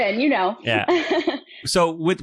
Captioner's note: laughs